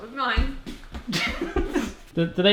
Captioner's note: both laugh